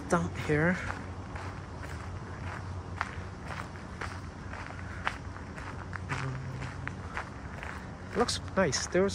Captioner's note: walking on gravel